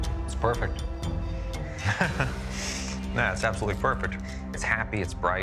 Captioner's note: chuckling